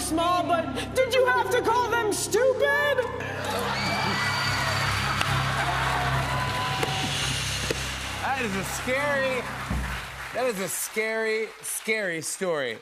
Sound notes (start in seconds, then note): 3.4 women screaming; 5.6 cheers and applause